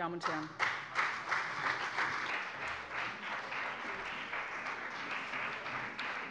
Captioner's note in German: Beifall bei dem BÜNDNIS 90/DIE GRÜNEN und der CDU